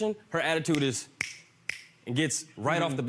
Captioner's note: snapping fingers